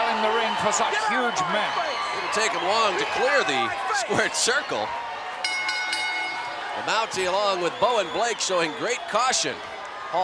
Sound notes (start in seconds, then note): 5.4 bell rings